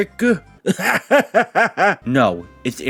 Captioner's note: laughs